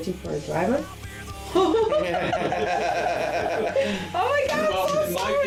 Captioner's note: laughing